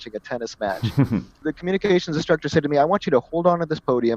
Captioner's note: laugh